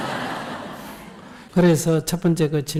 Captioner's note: audience laughter